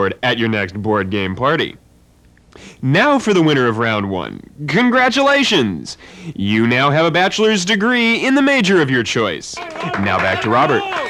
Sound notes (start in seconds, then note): 9.5 applause and cheering